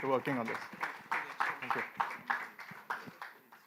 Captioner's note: applause